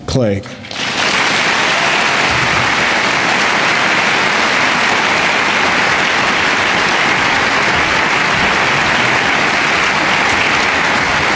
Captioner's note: applause